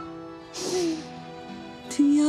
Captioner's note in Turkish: Derin bir nefes çekiyor